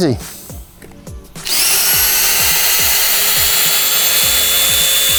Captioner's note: drills peg out of ground